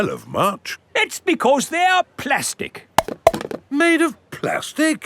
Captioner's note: clunks